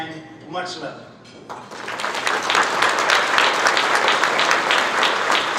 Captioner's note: audience clapping